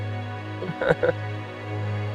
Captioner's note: laughter